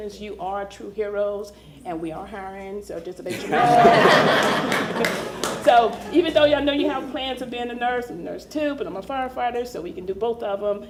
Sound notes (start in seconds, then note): 6.4 laughter